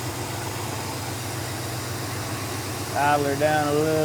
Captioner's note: engine Revving